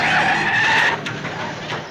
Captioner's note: brakes screech